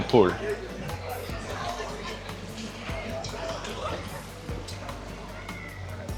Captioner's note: people chattering